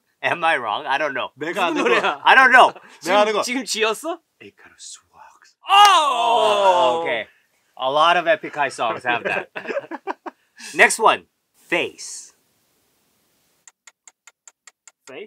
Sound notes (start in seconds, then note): 4.2 whispers; 13.8 timer ticks